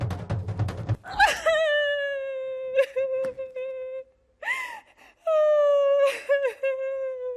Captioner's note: Hatshepsut gasps; Hatshepsut sobs